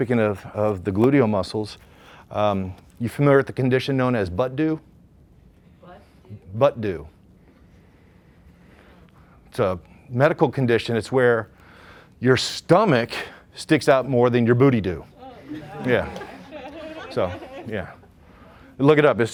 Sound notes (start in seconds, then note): 15.2 laughter